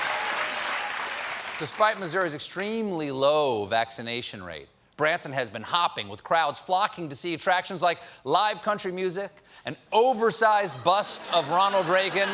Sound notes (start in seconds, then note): 0.0 applause